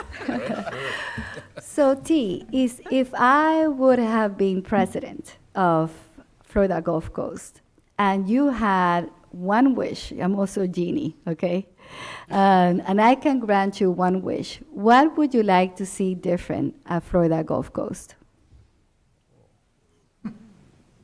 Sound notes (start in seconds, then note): 0.0 laughing